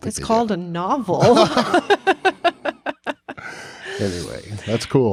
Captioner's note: both chuckling